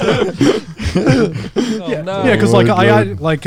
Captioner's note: all laughing